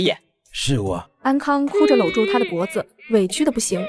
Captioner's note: crying